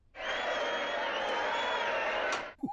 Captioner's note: crowd cheering